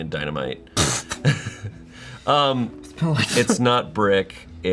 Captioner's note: everyone laughs